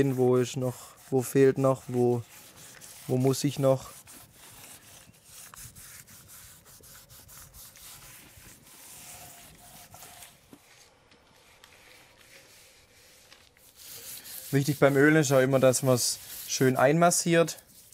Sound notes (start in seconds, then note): 6.3 quiet scraping